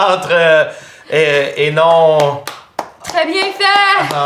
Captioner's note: Émeraude claps